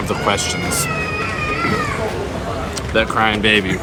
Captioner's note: baby crying